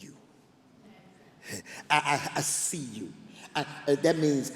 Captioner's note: laughs